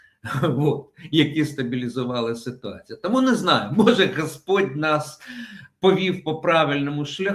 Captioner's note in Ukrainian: хекання